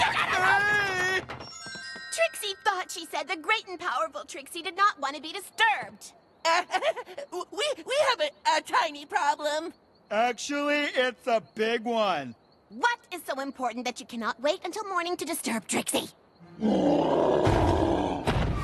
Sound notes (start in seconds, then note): 6.4 laughs nervously; 16.5 growling